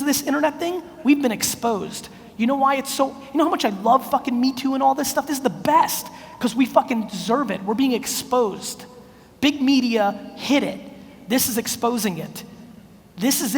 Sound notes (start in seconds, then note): none